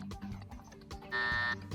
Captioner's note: buzzer